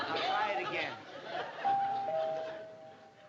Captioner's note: doorbell ringing